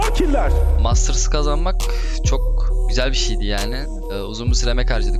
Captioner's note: speaking foreign language